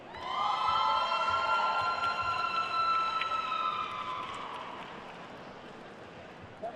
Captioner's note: attendees cheering and applauding